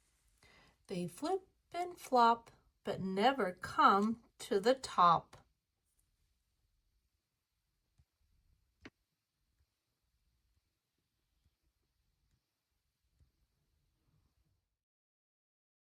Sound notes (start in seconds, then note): none